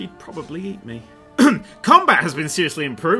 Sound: ahem

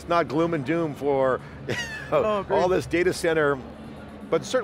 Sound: laughs

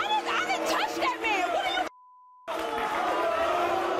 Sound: beep; audience jeers

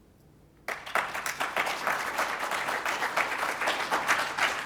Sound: applause

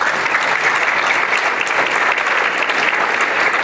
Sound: applause

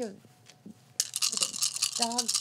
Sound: dice rattling

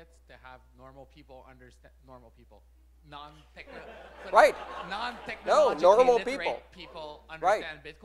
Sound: laugher

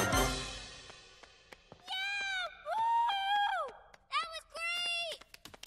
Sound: clapping

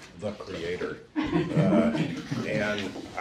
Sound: audience laughing

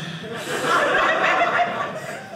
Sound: audience laughing

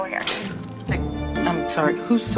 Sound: choking and spitting

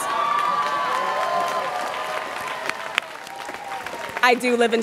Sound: students cheering

